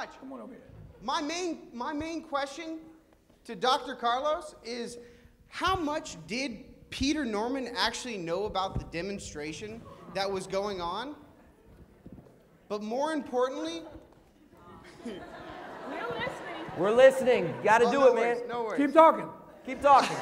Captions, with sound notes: >> Come on over here. >> My main -- my main question to Dr. Carlos is how much did Peter Norman actually know about the demonstration that was going on? But more importantly [laughter]. >> We're listening. >> We're listening, got to do it man. >> No worries, no worries. >> Keep talking. >> Keep talking [laughter].